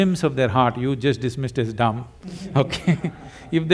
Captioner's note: laughter